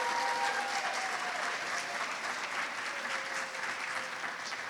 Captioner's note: applause